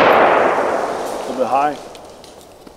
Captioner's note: gunshot